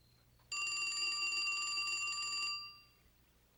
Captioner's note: telephone ringing